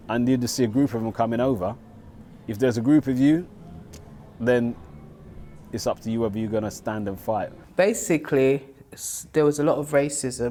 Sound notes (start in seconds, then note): none